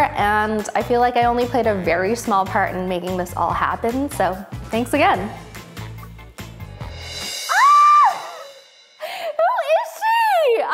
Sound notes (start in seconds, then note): 7.4 screams